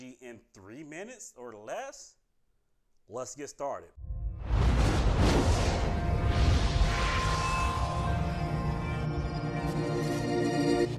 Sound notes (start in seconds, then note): 4.1 whooshing; 4.1 dramatic music